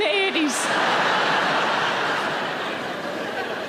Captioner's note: audience laughs